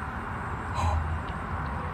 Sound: gasp

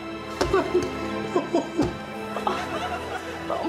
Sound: crying

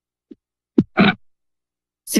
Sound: microphone thuds

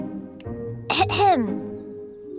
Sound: clearing throat

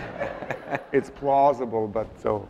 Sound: audience laughs

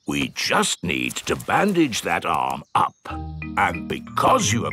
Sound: in teddy's voice; in normal voice

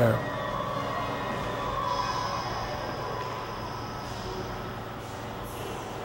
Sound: voices echoing in the distance

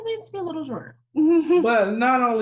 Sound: chuckles

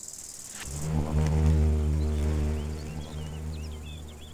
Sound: bee buzzes

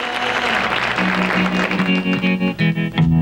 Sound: audience applauding

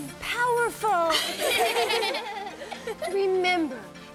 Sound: laughter

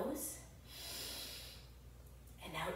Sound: inhales deeply

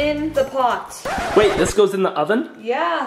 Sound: record scratch

